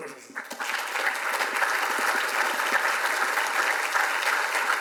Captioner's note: audience applauds